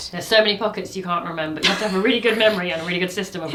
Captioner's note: laughing